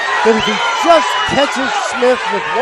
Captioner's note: applause